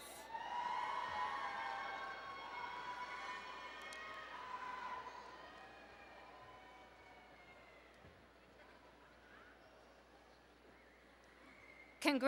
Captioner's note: cheering